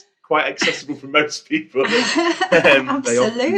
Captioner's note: laughter